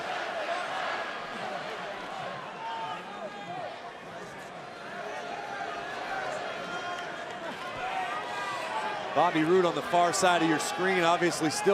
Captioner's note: crowd chatter